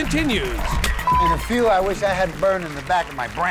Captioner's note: beep